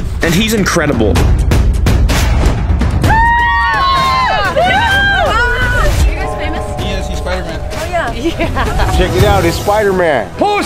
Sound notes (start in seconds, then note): 2.0 suspenseful music; 3.0 ladies screaming